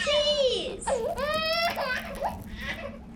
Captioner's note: cracking sound